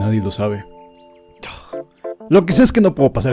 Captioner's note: sigh